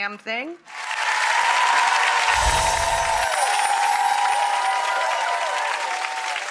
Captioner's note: audience cheering and clapping